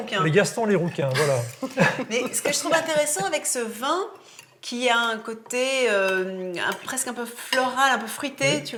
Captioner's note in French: rires